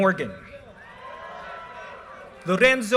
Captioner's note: audience cheers and applause